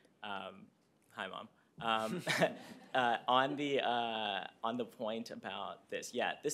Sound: laughter

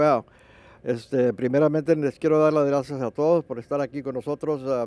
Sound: speaking in Spanish

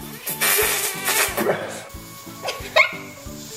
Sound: straining; laughter

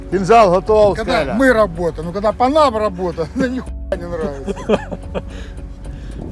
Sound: laughter

